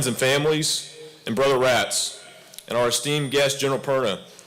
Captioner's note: none